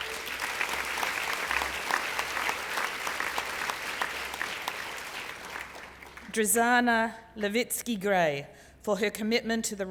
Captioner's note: applause